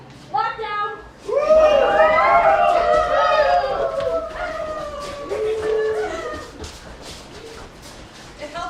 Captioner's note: screaming